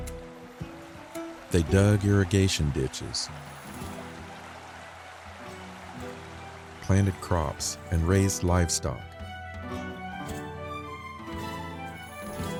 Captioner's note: applause